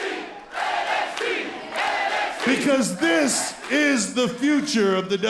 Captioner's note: crowd cheering